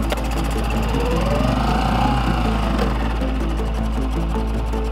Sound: boat engine roaring; upbeat pulsating music

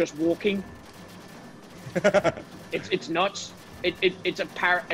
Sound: laugh

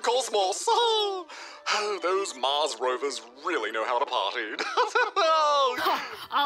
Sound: laughs

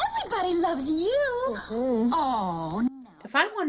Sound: Superman whines

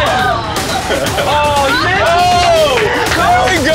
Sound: laughs

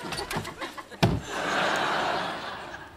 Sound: thudding; audience laughing

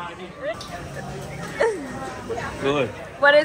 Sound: giggling

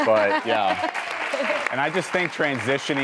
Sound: audience applauds

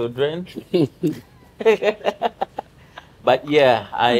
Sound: both Laughing

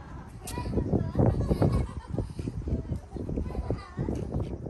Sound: laughs

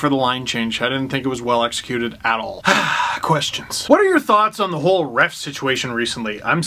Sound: sigh

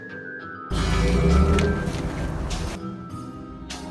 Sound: engine roaring

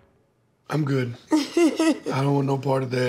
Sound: laughs

